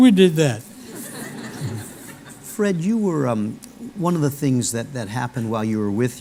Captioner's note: laughter